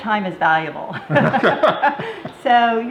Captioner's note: laughing